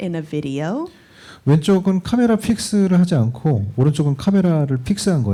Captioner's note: speaking korean